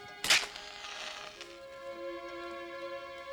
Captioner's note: calm romantic music; match cracks